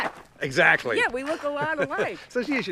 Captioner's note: laughs